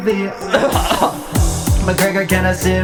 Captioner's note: coughs